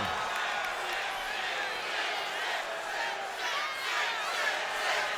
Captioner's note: crowd chants "Sid"